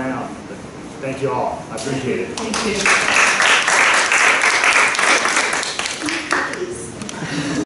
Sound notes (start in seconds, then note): 2.4 applause